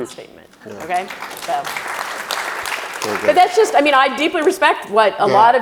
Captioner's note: audience claps